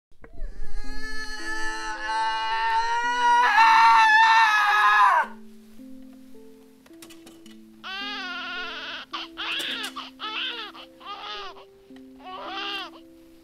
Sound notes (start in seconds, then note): 0.6 woman growling loudly; 7.8 baby crying